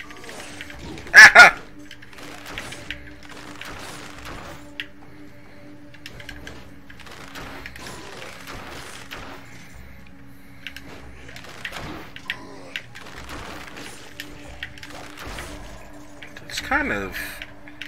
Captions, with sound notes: [pained cry] That's kind of...